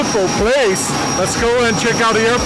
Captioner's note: propellers whirring